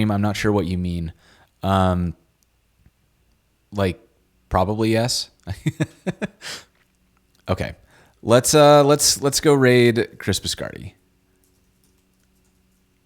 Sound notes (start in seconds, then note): 5.4 chuckles